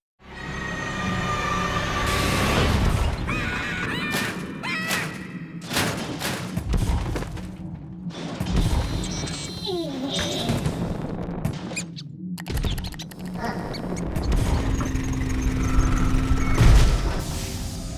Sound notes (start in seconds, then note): 0.6 screaming; 5.6 thudding; 9.1 grunting; 12.4 mice squeaking; 16.1 rumbling